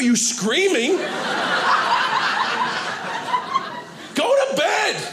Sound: audience laughing

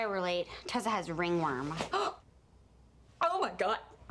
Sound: gasps

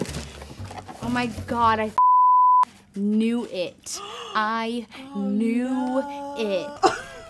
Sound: beep

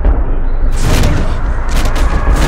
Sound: bang

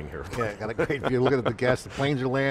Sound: laughs

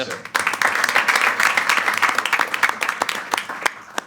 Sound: applause

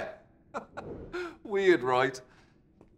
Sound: chuckles

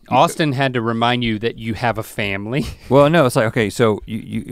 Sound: chuckles

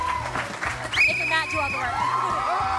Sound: whistle blowing; cheering

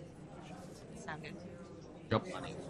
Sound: voiceover

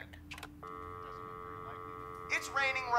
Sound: dial tone

